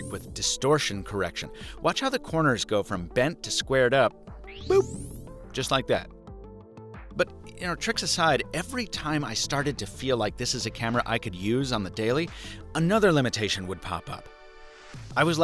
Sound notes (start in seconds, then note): 4.5 boop